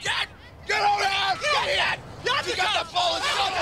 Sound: shouting

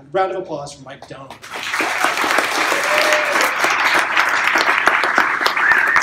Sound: cheers and applause

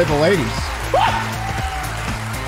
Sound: scream

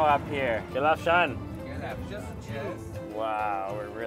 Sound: speaks in foreign language

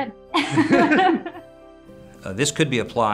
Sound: laugh

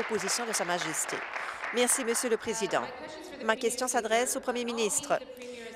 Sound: applause

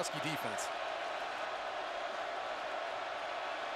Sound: crowd cheering

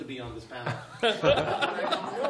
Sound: laughter

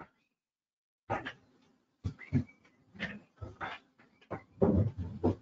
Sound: furniture shifting

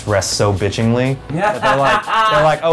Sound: laughs

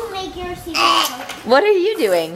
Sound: imitates burp

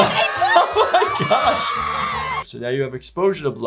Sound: people screaming

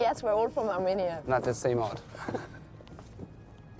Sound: laughing

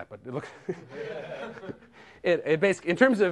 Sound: laughter

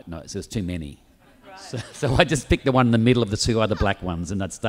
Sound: audience laughs

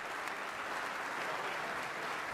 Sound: applause

